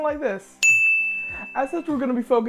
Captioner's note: ding